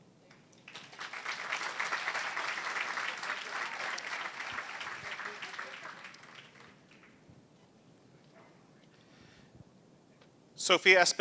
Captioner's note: applause